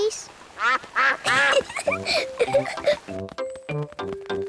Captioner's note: quacks; giggles